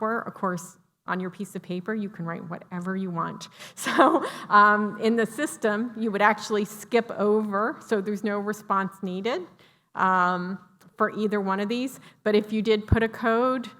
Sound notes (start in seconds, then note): 3.8 laughter